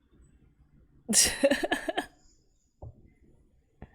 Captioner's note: laughs